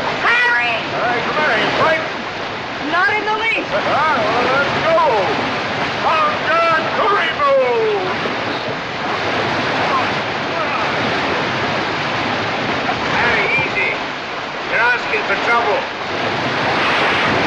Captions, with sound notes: - Harry! - What's the matter? You frightened? - Not in the least. - [ Laughs ] Well, let's go! [ Shouting In African Language ] Come on. Come on! Harry, easy. You're asking for trouble.